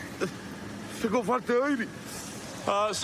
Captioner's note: speaking spanish